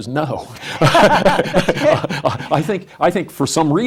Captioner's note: laughs